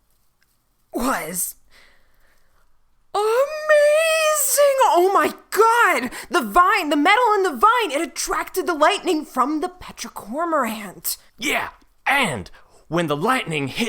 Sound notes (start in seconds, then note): 3.1 struggling; 4.1 excited